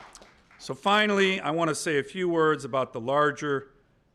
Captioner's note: applause